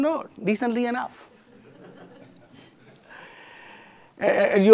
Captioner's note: laughter